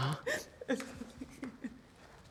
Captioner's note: sobbing